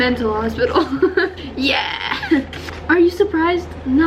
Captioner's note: laughs